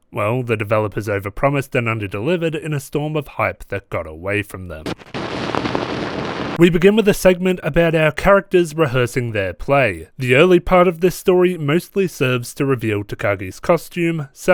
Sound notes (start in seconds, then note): 4.8 static Glitching